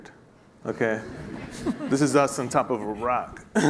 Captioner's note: laughing